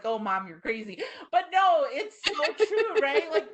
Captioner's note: laughing